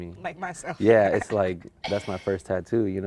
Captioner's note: laughs